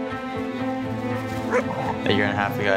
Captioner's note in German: Hundebellen